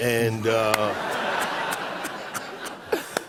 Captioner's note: laughter